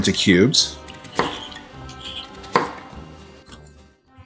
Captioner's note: knife chopping